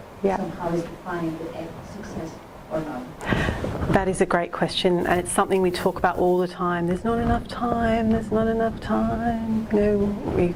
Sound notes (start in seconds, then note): 1.5 voiceover